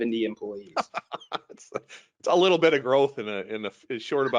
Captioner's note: laughing